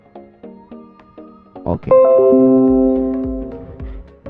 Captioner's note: Windows ding, OBS disconnected